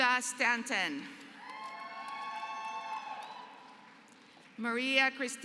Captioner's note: applause